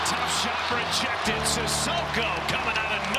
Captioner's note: crowd cheering